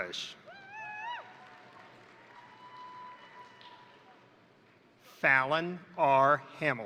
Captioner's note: crowd cheering; crowd applauding